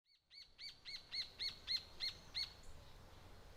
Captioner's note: bird Chirping